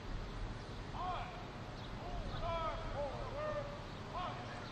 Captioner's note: military commands off mic